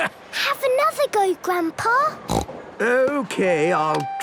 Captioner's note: snorts